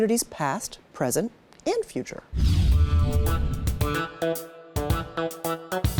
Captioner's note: screen whooshing